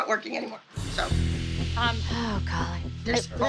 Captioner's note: sighs